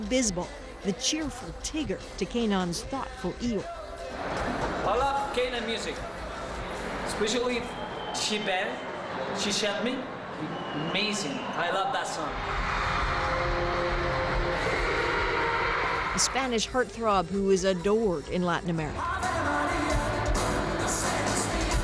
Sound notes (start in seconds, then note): 12.5 crowds shriek